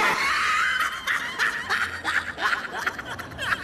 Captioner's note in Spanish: risas extremadamente groseras e innecesarias de ese meme